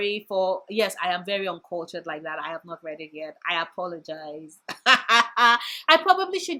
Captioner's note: laugh